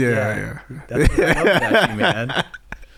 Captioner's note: laughing